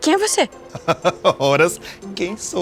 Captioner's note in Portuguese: Homem ri